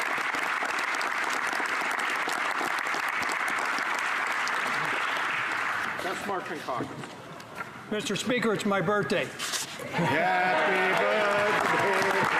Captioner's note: applause